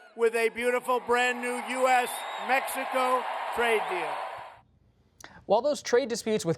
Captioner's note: cheers, applause